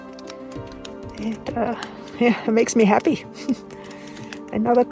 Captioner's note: laughs